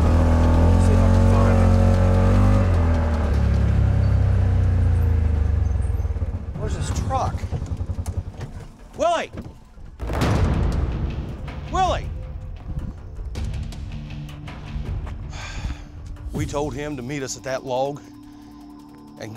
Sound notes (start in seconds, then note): 0.1 engine revs; 4.6 engine slows; 9.9 suspenseful music playing; 15.2 sighs